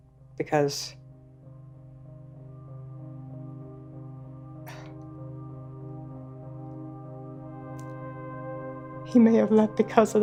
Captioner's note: breaking down